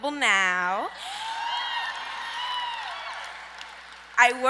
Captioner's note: audience cheers